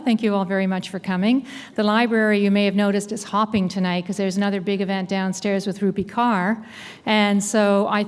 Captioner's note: none